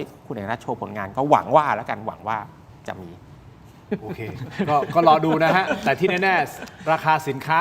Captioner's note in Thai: เสียงหัวเราะ